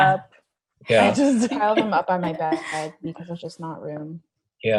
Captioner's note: audio is choppy